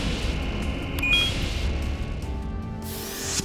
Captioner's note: beeps